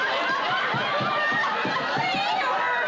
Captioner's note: knocking